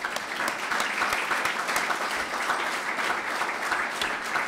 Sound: clapping

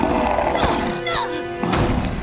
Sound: grunting

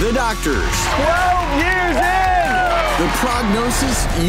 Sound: crowd cheering

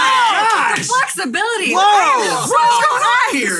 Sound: cheers

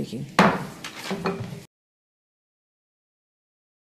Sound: gavel bangs

